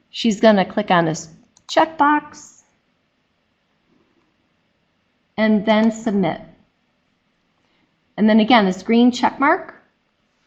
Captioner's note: click